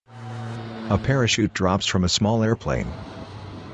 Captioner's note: plane flying overhead